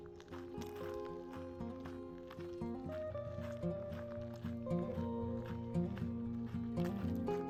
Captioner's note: footsteps on gravel